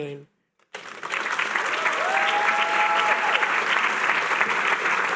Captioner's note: applause